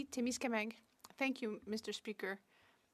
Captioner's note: speaking French